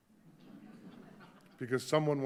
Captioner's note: audience laughing